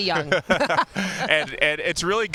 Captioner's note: laughter